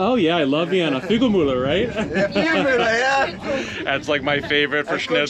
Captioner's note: laughs